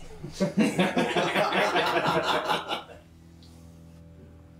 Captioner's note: patrons laughing